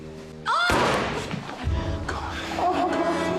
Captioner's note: woman screams; gun fires